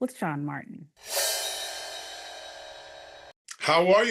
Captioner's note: air whooshing